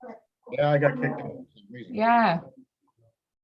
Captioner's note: mutters